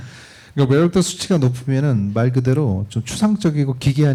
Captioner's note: speaking korean